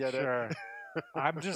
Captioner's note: laughing